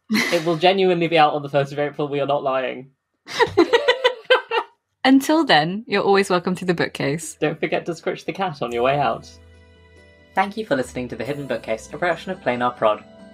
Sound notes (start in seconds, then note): 3.3 laughing; 8.7 theme music fades in